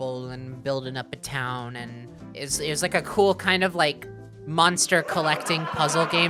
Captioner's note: sitcom laughter